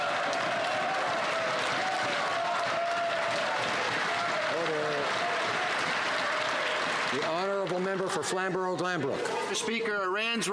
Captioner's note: some Applause